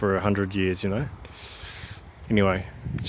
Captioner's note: sucking air in